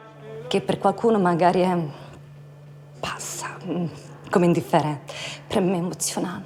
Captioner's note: speaks in foreign language